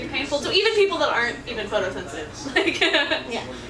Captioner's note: laughs